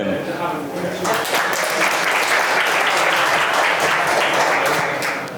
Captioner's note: applause